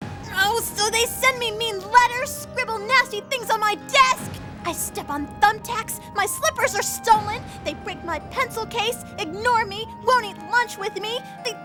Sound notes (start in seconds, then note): none